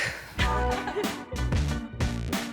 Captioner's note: laughs; upbeat music